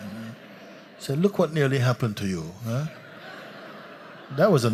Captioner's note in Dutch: gelach